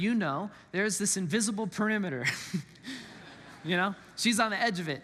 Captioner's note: congregants laugh